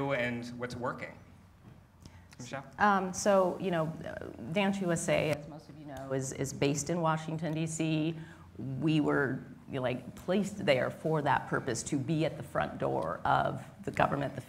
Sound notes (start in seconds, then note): none